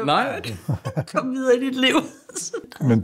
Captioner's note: laughs